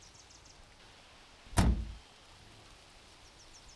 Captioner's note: car door latches